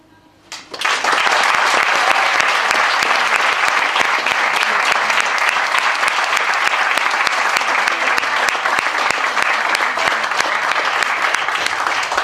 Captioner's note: applause